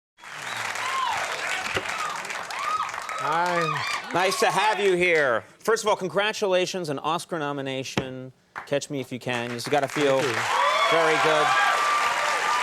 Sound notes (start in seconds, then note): 0.2 audience cheering and applauding